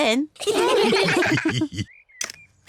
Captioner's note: all laugh